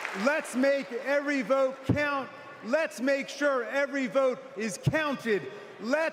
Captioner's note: applause